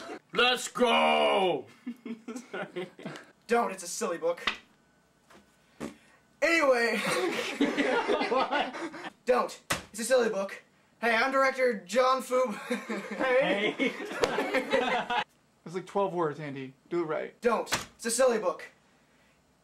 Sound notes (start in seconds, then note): 6.9 laughter; 14.1 laughter